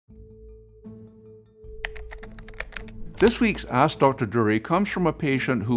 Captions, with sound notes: .(gentle music) (keyboard clicks) - This week's "Ask Dr. Durie" comes from a patient